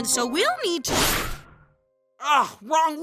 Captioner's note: zoom